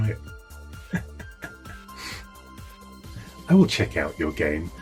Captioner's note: laughing